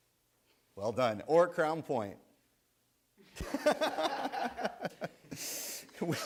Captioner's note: laughs